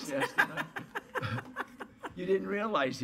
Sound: laughter

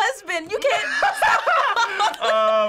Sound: cracking up

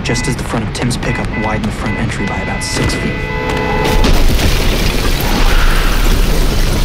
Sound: car crashing

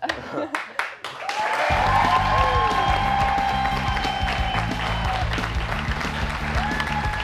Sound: cheers and applause

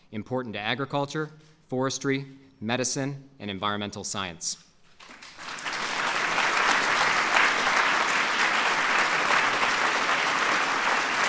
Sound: applause

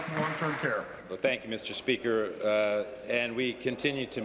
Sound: applause

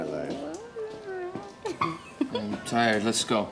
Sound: laughing

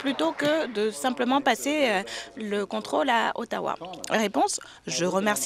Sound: applause

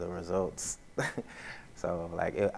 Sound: laughs

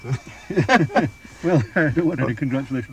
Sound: laughing

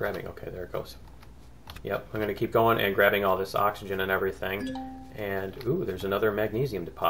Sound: ding

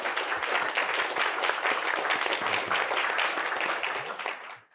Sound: audience applauding

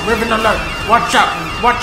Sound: sirens

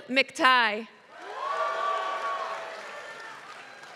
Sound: applause

